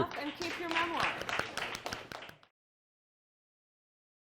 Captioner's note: applause